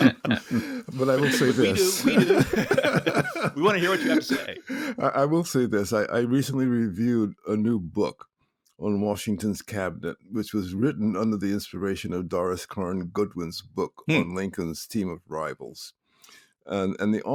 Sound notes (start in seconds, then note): 2.2 laughs